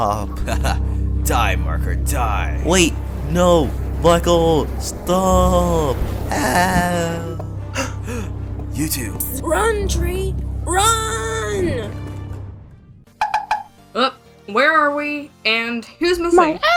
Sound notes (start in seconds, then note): 7.8 gasp